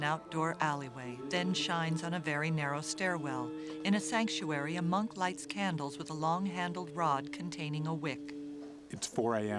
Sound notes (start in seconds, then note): 0.6 chanting